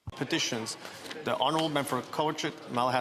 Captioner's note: speaking French